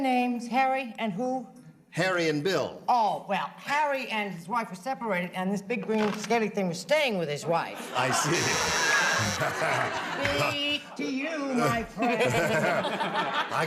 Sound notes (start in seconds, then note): 5.9 buzzer sounds; 9.4 laughter